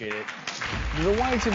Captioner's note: audience clapping